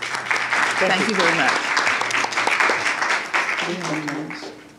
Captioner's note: applause